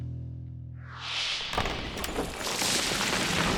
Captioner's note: wind whooshes; rocks clatter